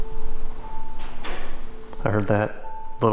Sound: metal clanking

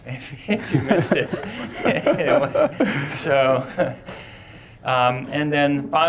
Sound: class and instructor laughing

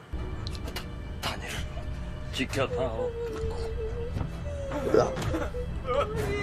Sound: cries

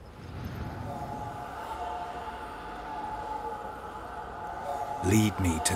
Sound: ghostly hum

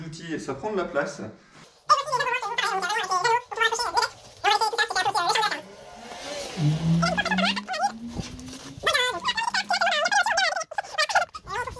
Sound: laughs

